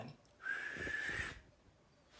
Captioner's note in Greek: σφύριγμα